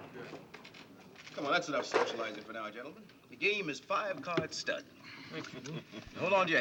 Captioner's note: laughter